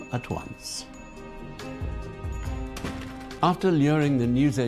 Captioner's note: bell tinkling